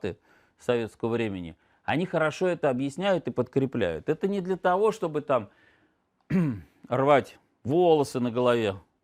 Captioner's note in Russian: откашливается